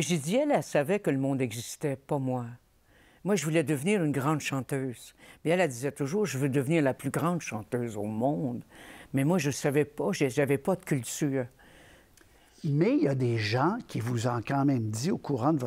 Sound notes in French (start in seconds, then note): none